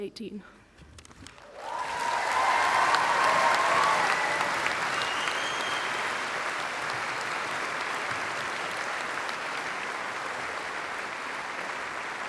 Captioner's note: applause